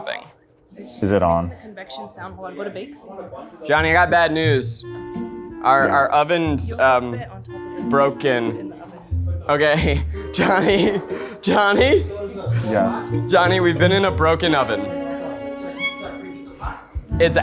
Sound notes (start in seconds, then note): 13.4 laughs